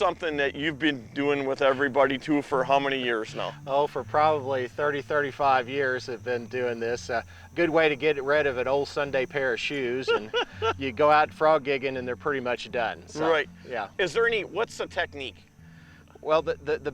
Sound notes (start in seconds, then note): 9.8 laughing